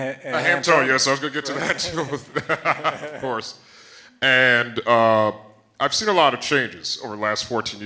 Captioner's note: laughs